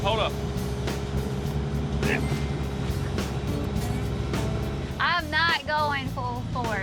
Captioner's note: excavator beeps; excavator motor whirring